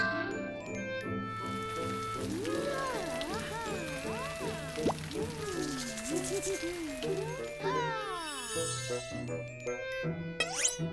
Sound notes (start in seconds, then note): 2.2 exclamations; 6.1 giggling